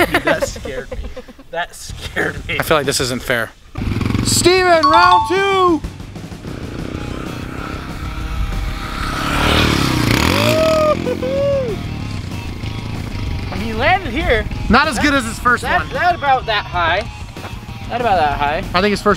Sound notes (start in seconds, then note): 6.3 dirt bike engine revving